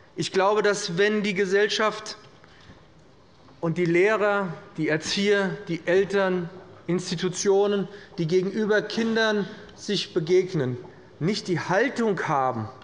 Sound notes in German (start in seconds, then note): none